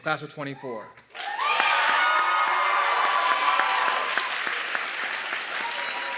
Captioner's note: audience clapping and cheering